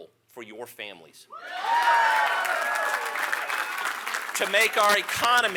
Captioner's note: applause